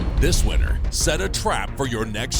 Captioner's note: voiceover